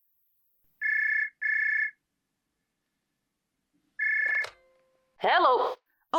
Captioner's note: phone ringing, follow by sound of pickup